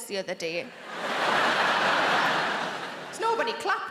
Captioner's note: audience laughs